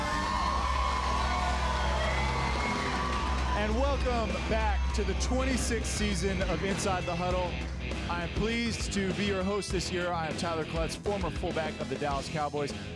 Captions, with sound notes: [applause and cheers] >> And welcome back to the 26th season of Inside the Huddle. I am pleased to be your host this year. I am Tyler Clutts, former fullback of the Dallas Cowboys.